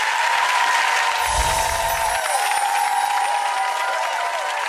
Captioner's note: audience applauding; wind chimes